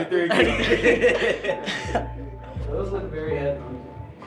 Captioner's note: laughing